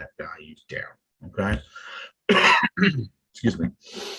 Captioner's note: coughs